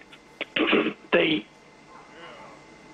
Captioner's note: clears throat